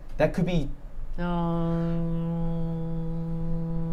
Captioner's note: humming